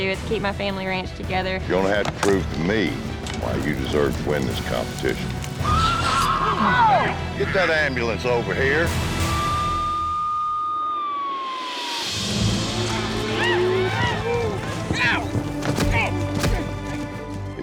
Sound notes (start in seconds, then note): 5.7 horse neighs; 9.2 sirens sounding; 12.8 shouting, grunting